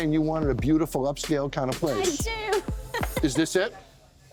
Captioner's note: laughs